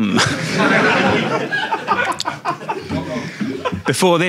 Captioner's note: audience laughing